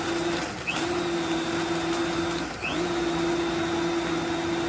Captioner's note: blender whirs